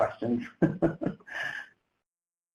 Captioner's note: chuckles